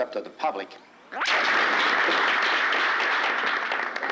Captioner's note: crowd applauding